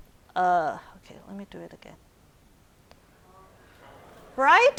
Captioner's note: audience chattering